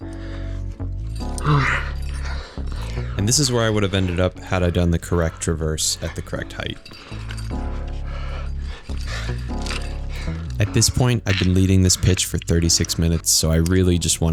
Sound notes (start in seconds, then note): 2.1 panting